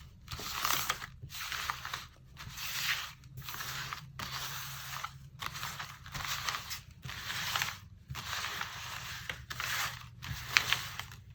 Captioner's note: shuffling